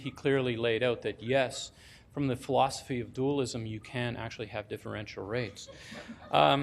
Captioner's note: laughing